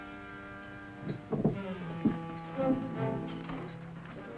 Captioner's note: wood rattling